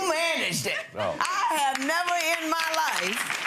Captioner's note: audience applauding